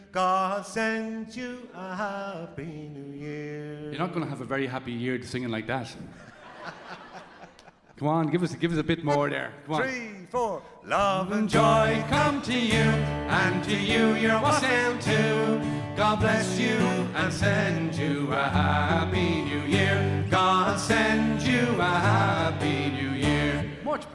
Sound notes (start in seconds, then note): 6.2 audience laughing; 6.2 laughs